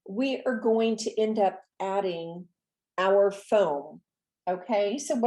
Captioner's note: none